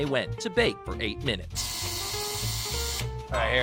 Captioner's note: timer buzzing